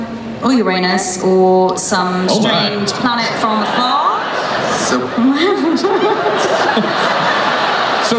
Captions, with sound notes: Or Uranus or some - [Voiceover] Oh my. - strange planet from afar. (laughing)